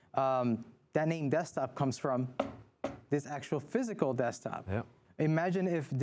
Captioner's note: knocks on desk